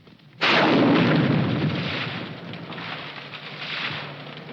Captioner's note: tree exploding